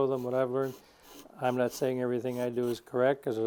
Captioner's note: sandpaper scraping